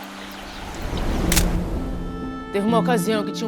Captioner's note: camera clicks